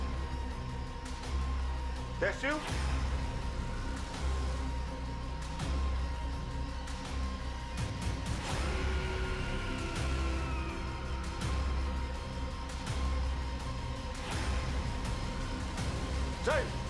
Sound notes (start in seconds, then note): 0.1 tense eerie music continues; 5.2 eerie suspenseful music swells; 9.2 distant growling; 12.9 eerie suspenseful music swells